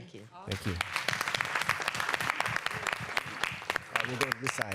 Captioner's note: applause